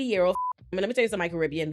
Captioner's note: beep